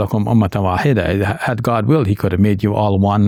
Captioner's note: speaks in foreign language